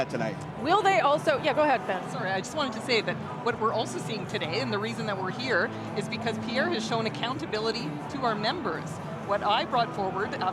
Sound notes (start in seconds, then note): none